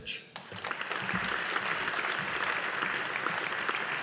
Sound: audience applauding

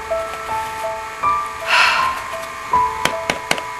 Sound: sighs

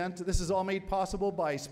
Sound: none

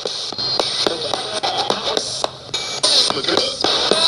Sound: radio babbles

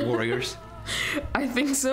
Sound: laughter

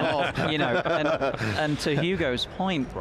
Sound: laughs

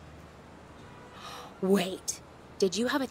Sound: gasps

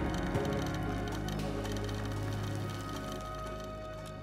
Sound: scooter rattles

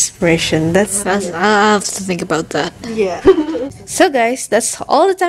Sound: giggles

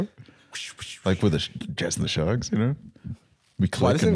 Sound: whooshing

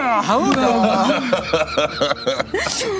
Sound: laughter

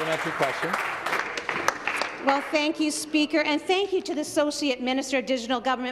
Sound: some Applause

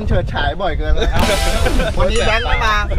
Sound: laughs

